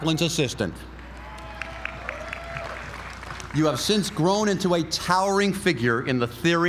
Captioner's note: applause